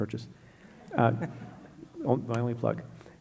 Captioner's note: laughing